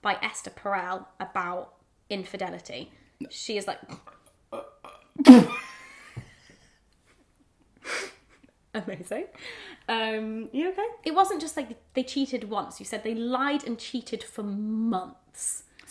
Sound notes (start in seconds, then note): 4.6 burps; 5.2 both laugh